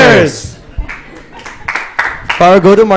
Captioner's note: applause